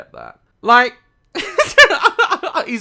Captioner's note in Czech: smích